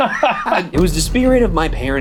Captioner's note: laughing